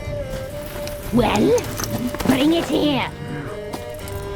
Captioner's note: impatiently